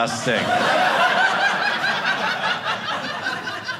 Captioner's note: audience laughing